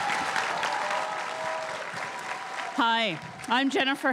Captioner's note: crowd cheering and applauding